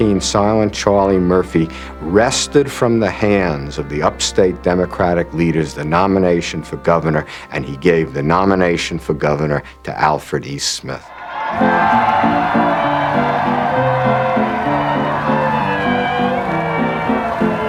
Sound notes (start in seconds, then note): 11.0 crowd Cheering